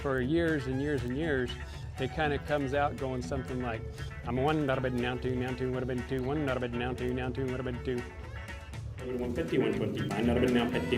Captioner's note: fast auctioneer talk